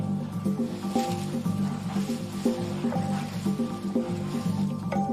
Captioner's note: grasses rustling